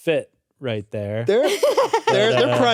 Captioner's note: laughs